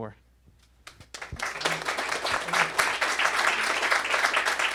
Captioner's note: applause